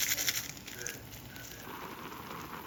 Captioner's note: sheshushhushhushhush